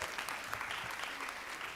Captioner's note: applause